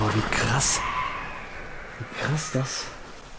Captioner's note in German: unheimliche Lache im Hintergrund